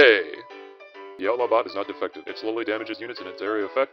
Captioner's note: in sped-up Disclaimer Voice